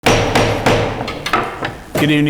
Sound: gavel banging

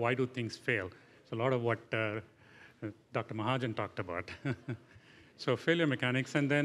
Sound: laughing

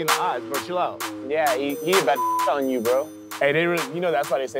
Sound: beep

